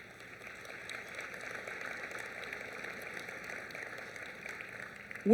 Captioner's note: applause